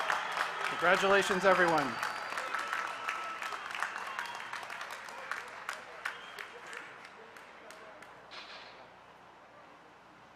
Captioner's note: applause